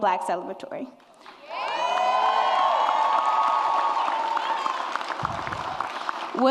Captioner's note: audience applauds and cheers